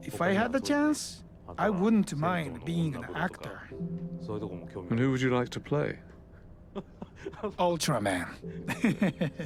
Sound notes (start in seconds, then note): 5.0 voiceover; 8.6 laughing